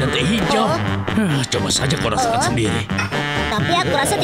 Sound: Master Bread groans

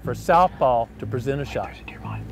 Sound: whispering

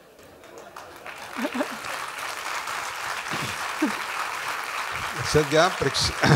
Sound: applause

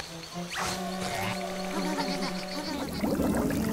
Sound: shivering

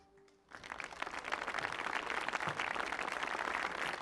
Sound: audience clapping

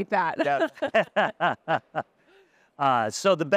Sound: laughter

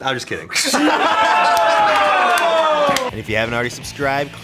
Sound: laughter

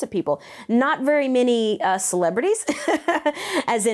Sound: laughs

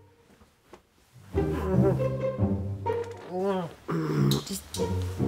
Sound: moans in sleep

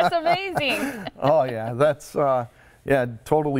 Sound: laughter

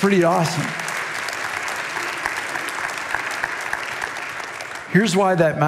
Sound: congregation clapping

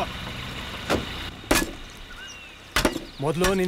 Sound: saw Sound

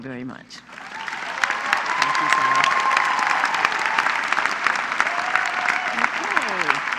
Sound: applause

